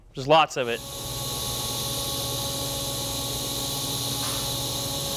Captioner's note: welder hissing